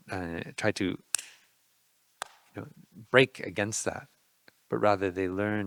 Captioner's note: fist thudding